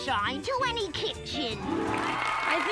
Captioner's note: crowd cheers